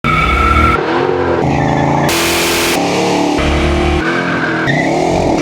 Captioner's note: engines rev